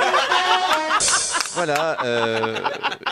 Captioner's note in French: rires